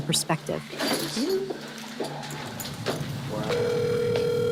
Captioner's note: door opens, footsteps, phone rings